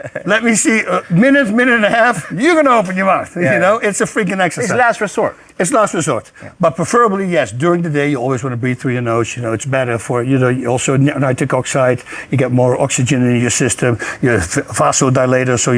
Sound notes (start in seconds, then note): 3.4 laughs